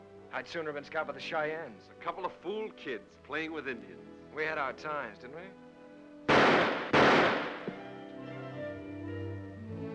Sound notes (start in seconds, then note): 6.2 gunshots; 7.5 soft whimsical music; 9.6 dramatic sentimental music